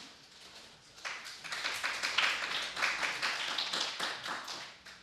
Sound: applause

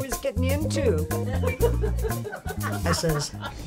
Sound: ladies giggling

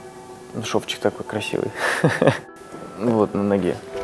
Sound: laughing

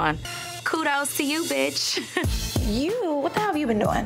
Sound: chuckles

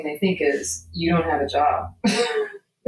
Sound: laughing

